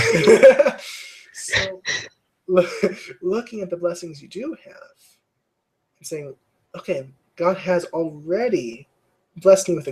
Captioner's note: laugh